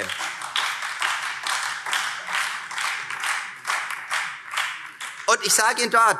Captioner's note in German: Beifall Freie Demokraten und BÜNDNIS 90/DIE GRÜNEN